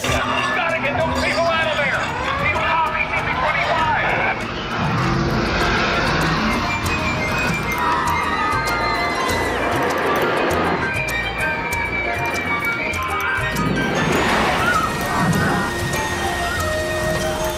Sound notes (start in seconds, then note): 4.9 dinosaur growling; 7.5 riders screaming